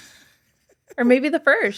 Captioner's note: laughing